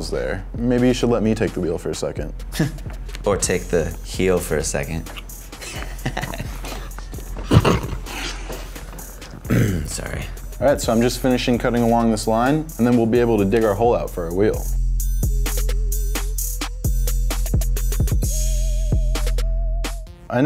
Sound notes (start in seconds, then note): 5.0 laugh